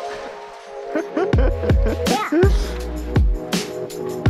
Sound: laughing

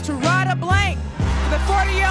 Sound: audience cheers

